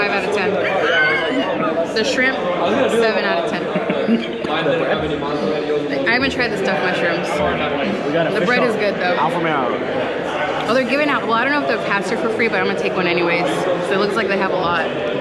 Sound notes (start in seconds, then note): 1.2 laughs; 3.2 laughs